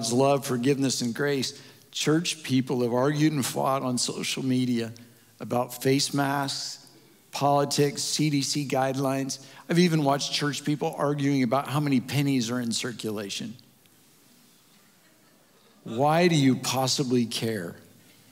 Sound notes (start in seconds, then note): 14.8 audience Chuckles